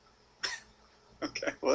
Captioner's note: laugh